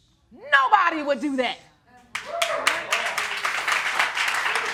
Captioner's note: audience cheering